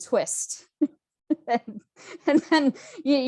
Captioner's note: chuckles